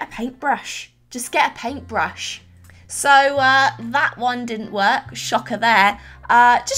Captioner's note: sarcastically